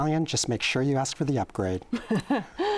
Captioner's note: laughs